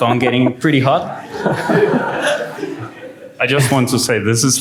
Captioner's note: laughter